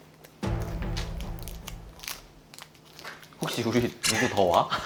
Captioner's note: the studio is filled with the sound of them working